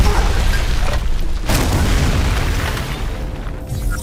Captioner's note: thud